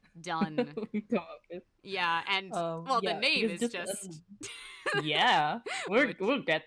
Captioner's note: laugh